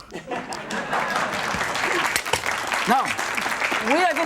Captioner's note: audience clapping